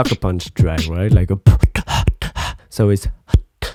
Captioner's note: beatbox